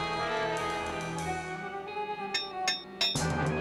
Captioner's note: clinking